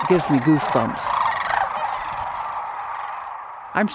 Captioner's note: cranes calling